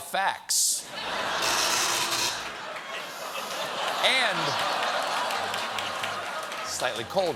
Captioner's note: laughter